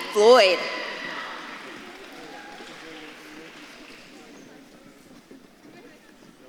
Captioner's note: audience claps and cheers